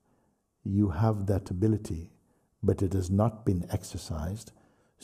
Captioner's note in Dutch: none